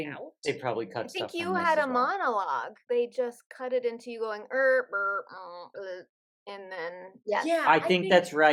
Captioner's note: robot noises